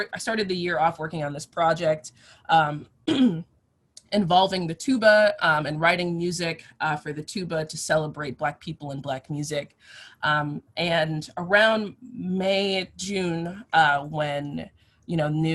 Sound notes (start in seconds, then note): 3.1 clears throat